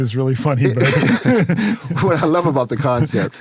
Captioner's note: laugh